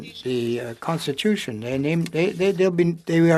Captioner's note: speaking French